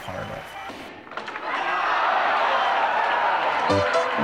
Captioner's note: crowd cheers